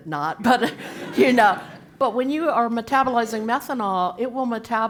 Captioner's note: laugh